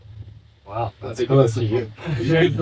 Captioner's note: laughing